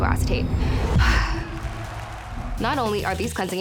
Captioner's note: sighing